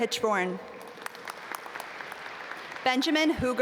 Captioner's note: audience applaud